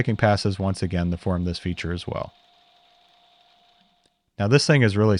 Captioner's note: mill whirring